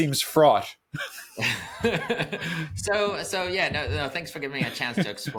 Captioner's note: laughs